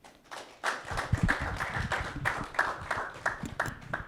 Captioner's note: audience clapping